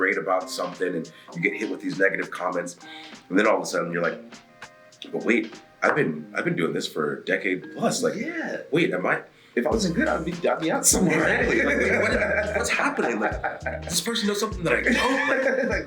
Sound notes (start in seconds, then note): 10.8 laugh